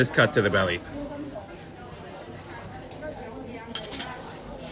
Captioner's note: people chattering; chopsticks clanging